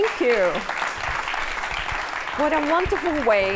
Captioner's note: applause